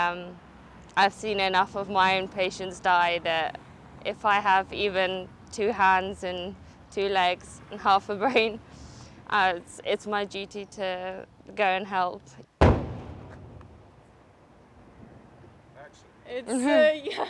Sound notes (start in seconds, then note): 12.6 explosion; 16.5 laughing